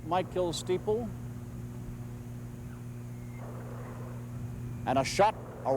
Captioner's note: mortar fire booming